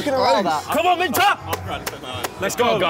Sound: clapping

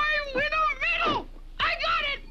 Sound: laughs

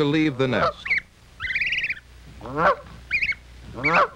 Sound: goose honking

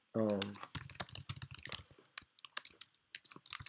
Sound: typing

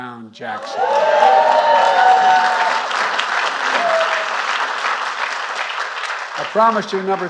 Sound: applause

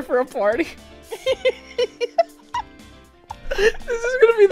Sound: laughing too hard to speak well; hysterical giggles

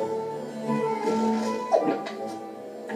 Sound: gulping

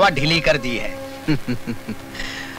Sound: laughs

